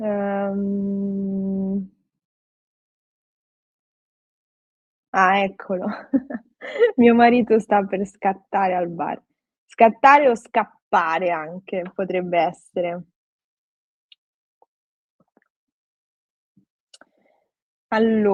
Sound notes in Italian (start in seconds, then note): 5.9 risate